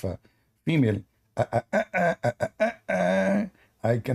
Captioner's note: Ketawa